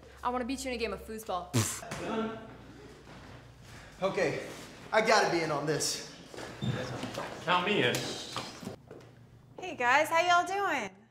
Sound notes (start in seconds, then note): 1.6 Justin exhales sharply